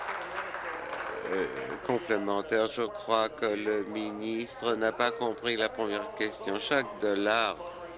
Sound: applause

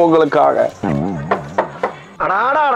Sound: door knocks

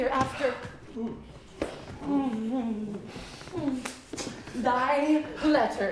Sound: groaning

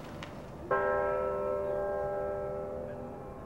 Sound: bell dinging

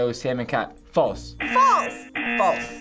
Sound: buzzer rings

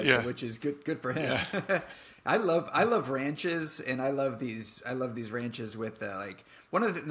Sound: laughs

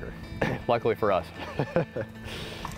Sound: laughing

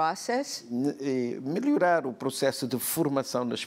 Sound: speaking portuguese

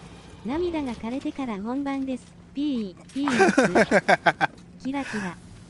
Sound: laughs

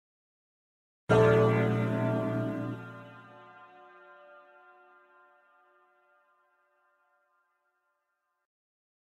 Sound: church bell

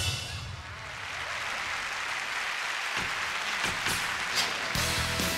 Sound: applause

